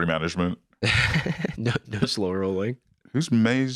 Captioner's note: laughs